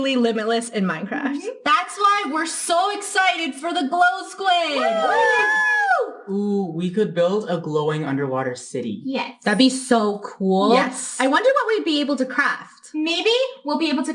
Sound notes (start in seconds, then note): 6.8 cheering